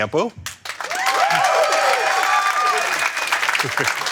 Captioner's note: crowd cheering